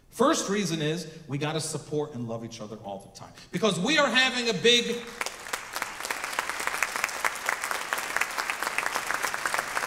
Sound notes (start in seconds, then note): 5.0 audience clapping